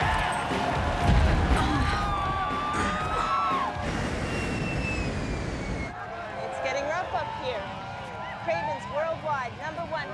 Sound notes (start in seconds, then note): 0.0 turbulence; 3.0 fans scream